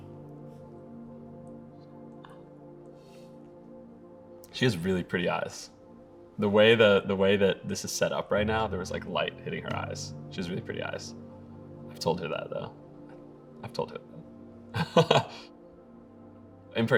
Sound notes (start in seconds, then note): 0.2 pensive music; 2.4 whispers; 14.7 laughing